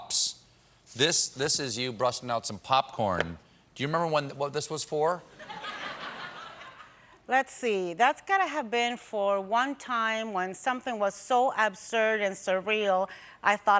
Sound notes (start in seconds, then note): 5.3 laughter